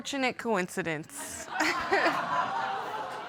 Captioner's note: audience laughing